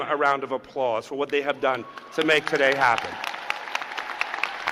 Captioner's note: cheers and applause